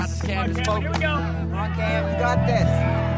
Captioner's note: cheering